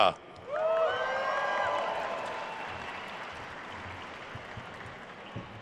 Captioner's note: attendees cheering and applauding